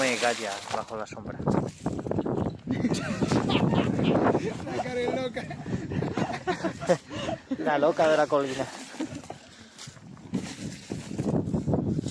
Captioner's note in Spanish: risas